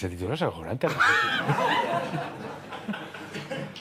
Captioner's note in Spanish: Risas